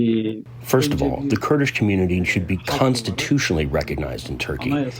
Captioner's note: through translator